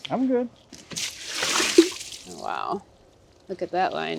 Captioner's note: liquid splashing